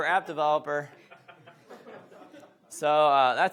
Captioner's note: audience laughs